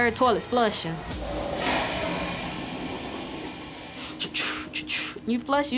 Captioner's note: toilets flushing